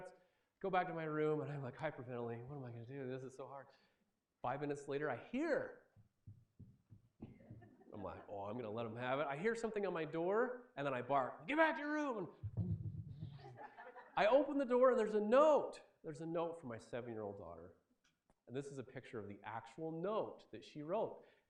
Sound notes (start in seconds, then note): 6.3 footsteps; 12.7 quick footsteps